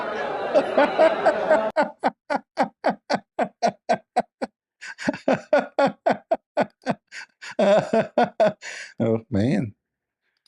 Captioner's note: Ketawa